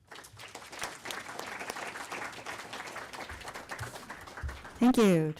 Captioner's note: audience Applause